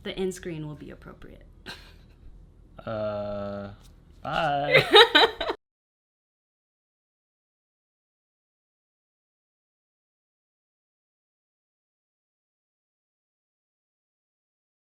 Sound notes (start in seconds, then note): 4.6 laughs